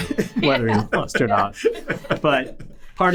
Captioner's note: all laughing